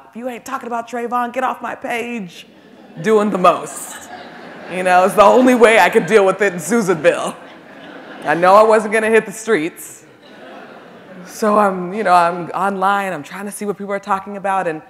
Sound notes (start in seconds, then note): 2.5 audience laughing